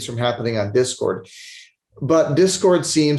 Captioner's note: sniffles